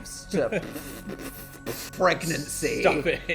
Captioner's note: chuckling